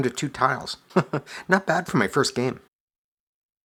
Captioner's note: chuckles